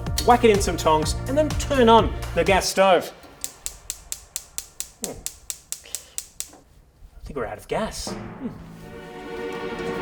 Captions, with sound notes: whack it in some tongs, and then turn on the gas stove [clicking] I think we're out of gas.